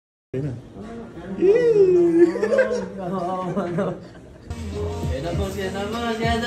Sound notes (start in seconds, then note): 1.8 giggling